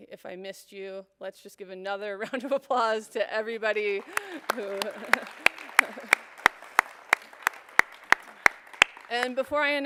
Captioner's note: applause